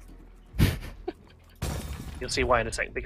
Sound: window breaking

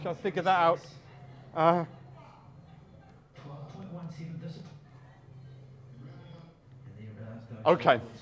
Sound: sports commentary in background

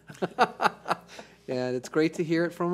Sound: laughter

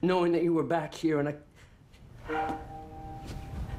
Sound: breathing hard

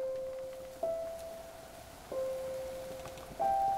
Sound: wind blows

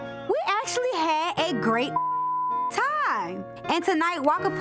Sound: beep

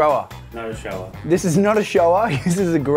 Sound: chuckling

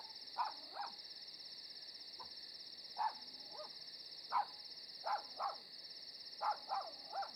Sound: night ambience

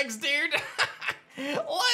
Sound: laughs

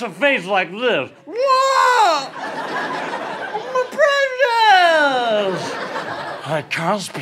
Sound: yells; imitates Gollum

